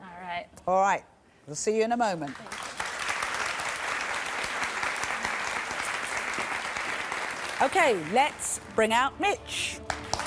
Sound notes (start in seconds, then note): 2.2 applause